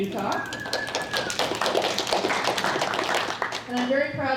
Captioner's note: applause